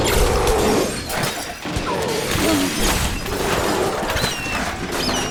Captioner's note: laser shoots; lasers shooting; glass and furniture breaking